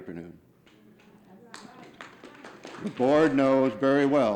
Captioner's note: audience clapping